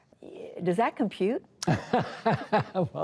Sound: laughter

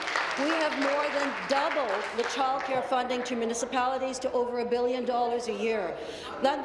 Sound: applause

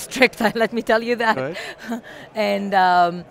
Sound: laughs

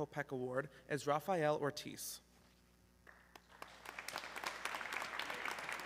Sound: audience clapping

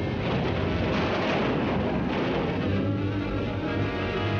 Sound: fire crackling; artillery firing; dramatic music

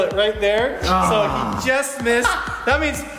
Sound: groans

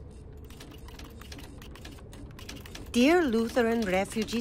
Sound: typewriter keys clacking

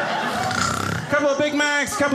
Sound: mimicking snoring

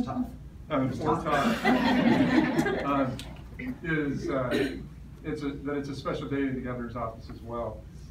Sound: laughter

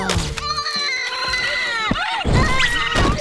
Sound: crying

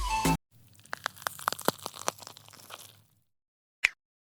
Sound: the sound of wood burning in the kitchen

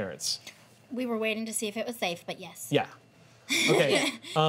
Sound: laughs

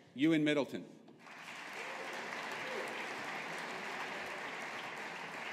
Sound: audience applauding

